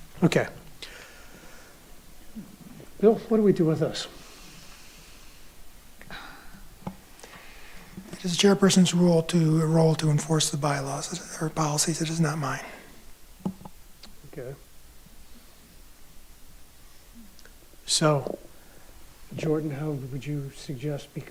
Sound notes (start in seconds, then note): 6.0 sighing